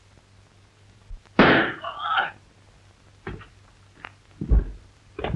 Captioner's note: gun shot